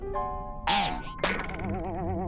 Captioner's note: boing; boink